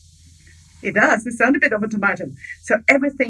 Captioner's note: speaking in foreign language